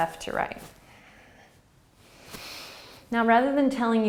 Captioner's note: breathing